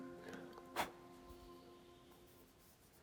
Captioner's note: blowing